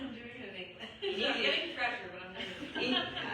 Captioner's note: laughs